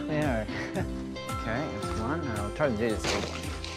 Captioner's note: laughs